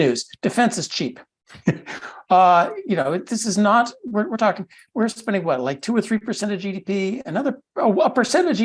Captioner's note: laugh